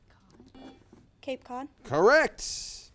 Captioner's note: buzzer